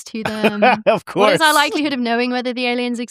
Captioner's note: laughs